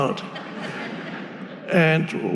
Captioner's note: audience laughing